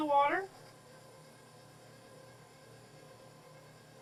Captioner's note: mixer whirring